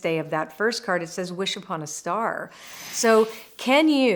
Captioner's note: frame whooshes